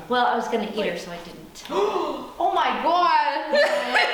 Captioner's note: gasp